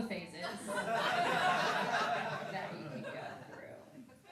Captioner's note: laughing